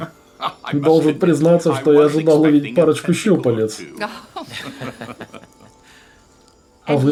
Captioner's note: laughter